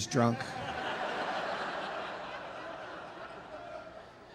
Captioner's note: audience laughing